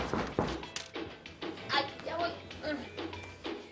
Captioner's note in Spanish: Toques en la puerta